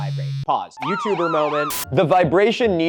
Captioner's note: sirens wailing